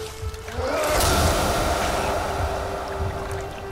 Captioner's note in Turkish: Yumruk Sesi